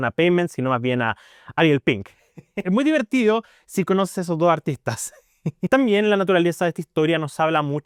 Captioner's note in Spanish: risas